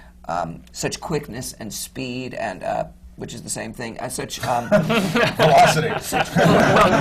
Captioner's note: laughter